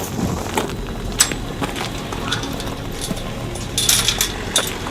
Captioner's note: fence rattling